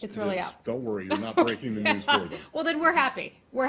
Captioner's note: laughter